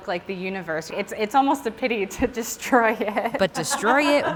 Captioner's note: laughs